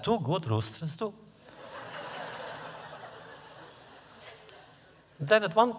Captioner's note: laughter